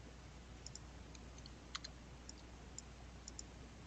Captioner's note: mouse clicking